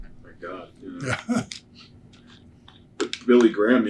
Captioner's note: laughs